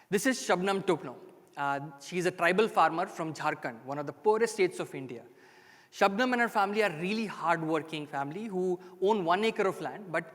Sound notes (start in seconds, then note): none